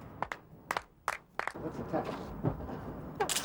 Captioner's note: clapping